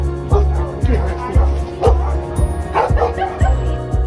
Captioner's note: dog barking